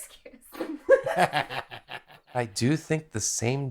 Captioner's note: laughs